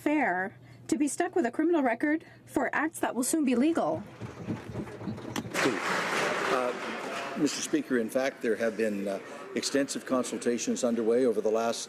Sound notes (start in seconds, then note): 8.5 some Applause